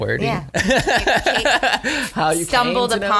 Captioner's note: laughs